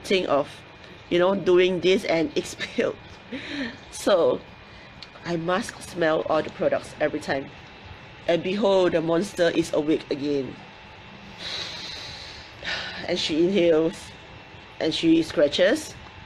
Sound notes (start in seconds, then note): 11.2 inhales and exhales